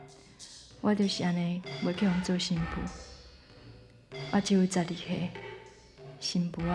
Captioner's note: speaking Taiwanese